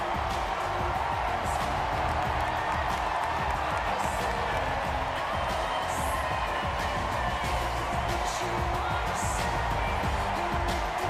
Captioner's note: cheers and applause